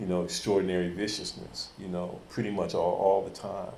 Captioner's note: none